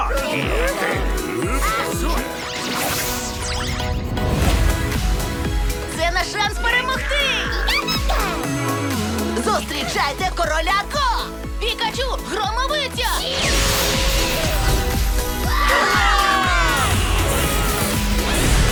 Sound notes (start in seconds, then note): 13.0 yells; 13.8 all cheer